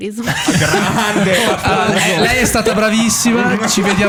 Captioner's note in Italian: laughter